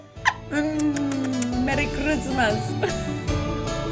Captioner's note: kisses